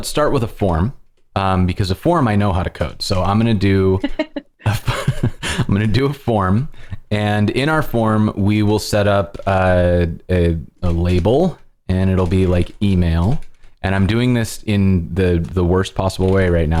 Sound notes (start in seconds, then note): 4.6 laughter